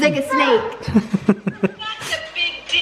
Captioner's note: laughing